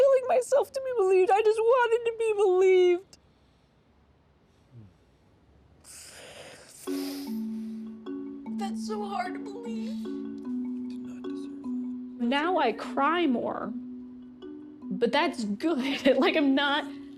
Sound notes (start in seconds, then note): 4.5 crying softly; 11.2 quietly; 14.3 laughing